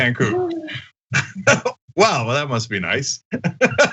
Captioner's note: laugh